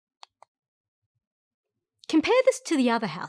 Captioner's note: mouse clicks